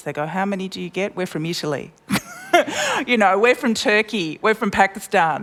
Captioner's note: laughs